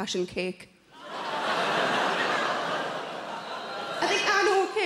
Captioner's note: audience laughs